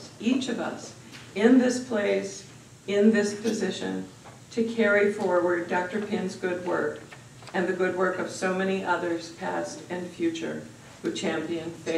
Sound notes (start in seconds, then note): none